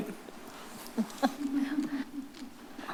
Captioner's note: laughing